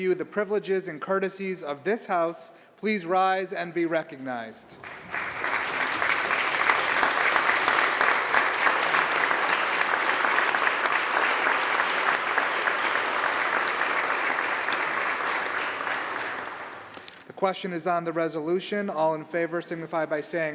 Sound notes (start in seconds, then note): 2.9 applause